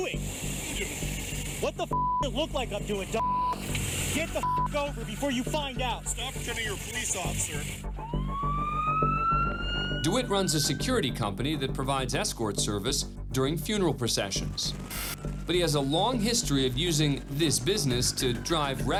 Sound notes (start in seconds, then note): 7.8 siren